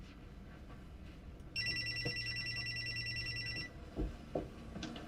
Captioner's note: cellphone ringing